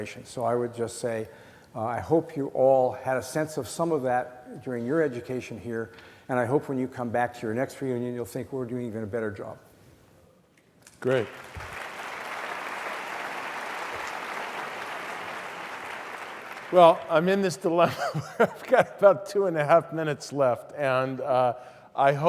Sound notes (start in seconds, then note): 11.0 applause; 17.8 laugh